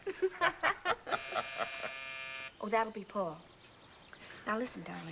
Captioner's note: both laugh; buzzer sounds